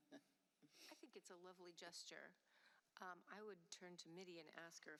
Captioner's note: laughter